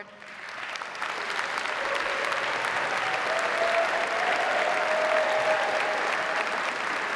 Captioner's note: audience applauding; audience cheering